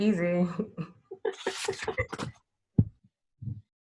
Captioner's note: laughing